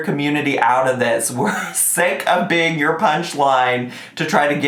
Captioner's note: laughs